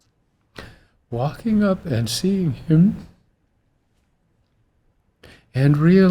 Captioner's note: tearfully